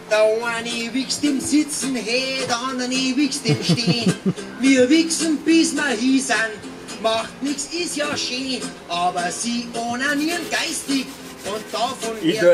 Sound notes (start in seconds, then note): 3.4 laughter